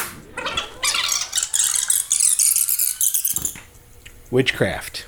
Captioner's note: tape whirring; tape chattering